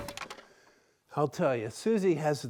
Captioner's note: wood stacking sound